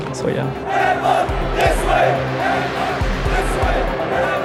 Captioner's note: crowd chanting